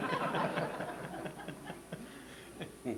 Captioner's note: audience laughter